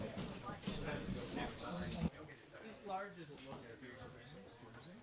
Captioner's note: patrons chattering